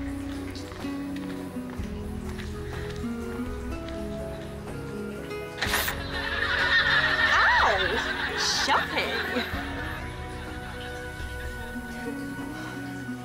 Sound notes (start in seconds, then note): 0.3 emotional music; 5.6 electricity zaps; 5.8 audience laughs; 10.2 emotional music